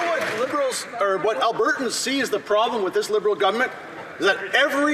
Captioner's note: some Applause